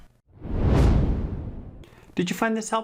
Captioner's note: frame whooshes